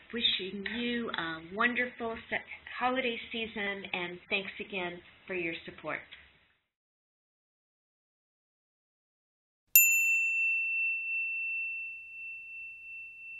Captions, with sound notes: Wishing you a wonderful holiday season and thanks again for your support. (bell tone)